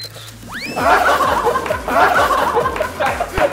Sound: laughing hard

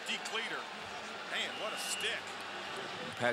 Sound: voiceover

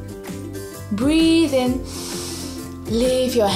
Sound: breathes in deeply

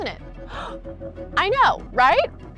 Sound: gasps

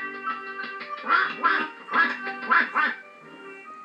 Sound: quack Quack Quack Quack Quack

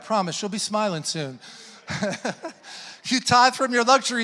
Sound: laughs

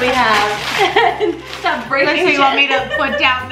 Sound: laughs

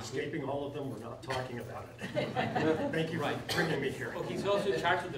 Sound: laughing

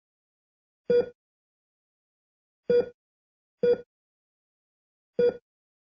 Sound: Bips d'un cardioscope

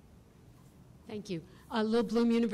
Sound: voiceover

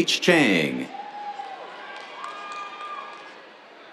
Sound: cheers, applause

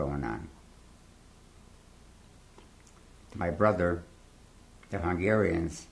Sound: pauses for 3 seconds

